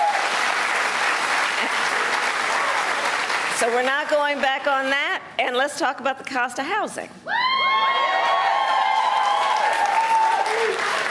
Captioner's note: cheers and applause